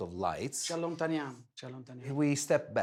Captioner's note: speaking foreign language